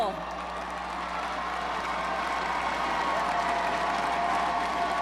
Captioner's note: crowd cheers